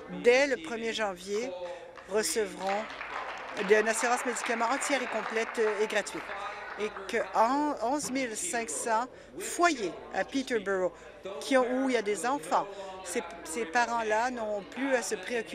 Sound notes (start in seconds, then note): 6.7 applause